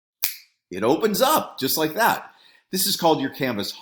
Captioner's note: snaps fingers